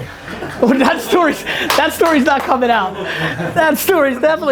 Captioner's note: group laughter